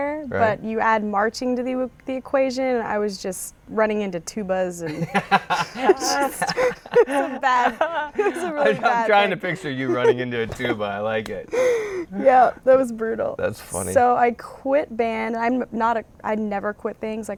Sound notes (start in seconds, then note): 4.8 laughter; 8.7 laughing